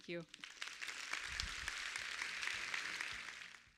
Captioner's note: applause